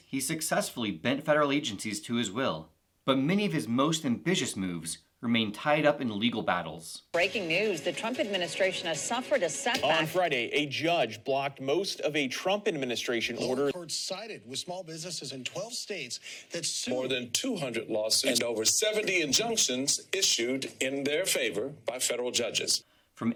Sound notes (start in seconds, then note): 9.3 layered clips of lawsuit filed sound bites